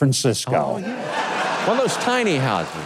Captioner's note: audience laughing